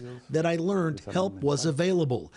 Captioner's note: speaking spanish